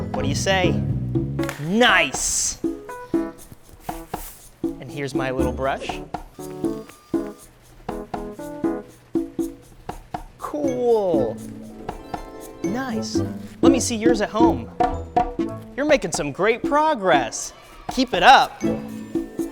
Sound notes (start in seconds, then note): 10.7 magical harp strum; 17.3 children cheer